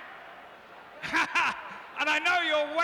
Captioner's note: laughs